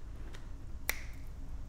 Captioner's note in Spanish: Chasquido